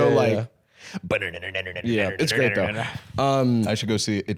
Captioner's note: chanting rhythmically